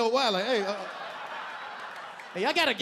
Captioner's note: audience laughing